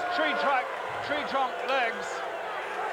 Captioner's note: crowd cheers